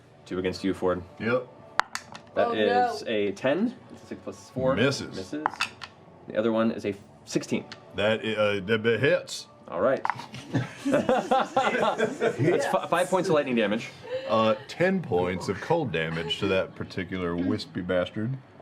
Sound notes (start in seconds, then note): 8.4 stuttering